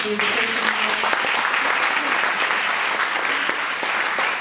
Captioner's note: audience applauding